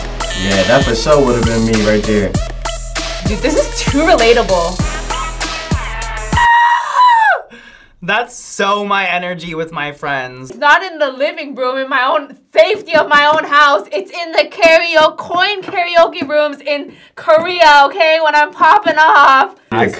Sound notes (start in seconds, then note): 0.2 buzzer rings; 5.8 screams